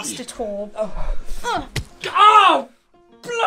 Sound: thump

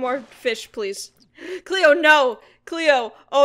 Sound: gasps

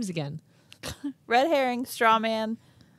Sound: chuckles

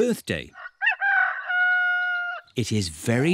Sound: roster crows

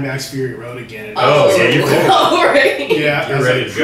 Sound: laughs

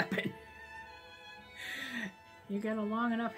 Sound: chuckle

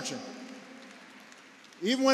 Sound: applause

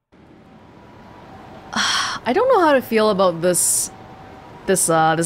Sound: exhales

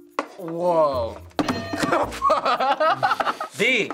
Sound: hitting bell; laughs

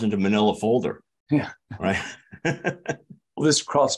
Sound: laughs

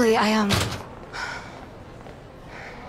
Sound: sigh

